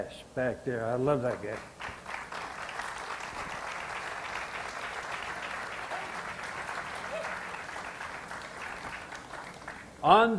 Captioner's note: audience applause